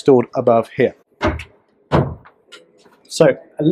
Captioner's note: thumping